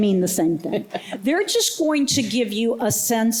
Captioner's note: laughter